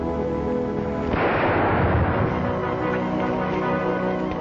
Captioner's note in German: Schuss feuert